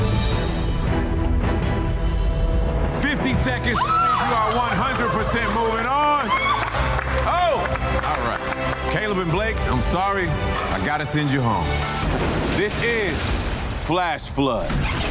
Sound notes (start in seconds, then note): 0.2 dramatic music; 4.6 laughing